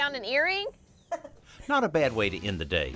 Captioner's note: laughs